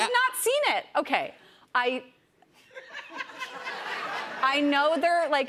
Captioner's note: laughter